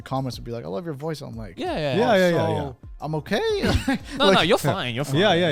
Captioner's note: chuckles